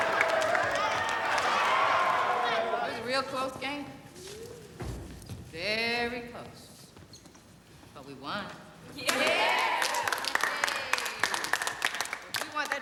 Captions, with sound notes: - That was a real close game. Very close, but we won. (applause)